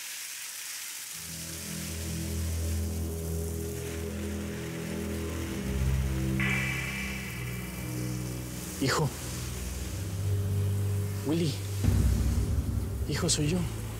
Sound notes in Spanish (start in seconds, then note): 1.3 Sonido del agua